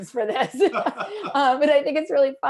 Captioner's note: laughter